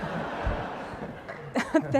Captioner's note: laughter